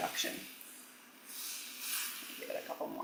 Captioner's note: food sizzling